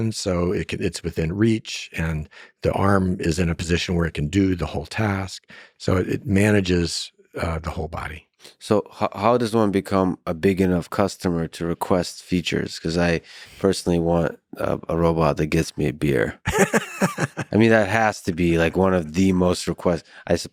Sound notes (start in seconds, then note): 16.4 laughs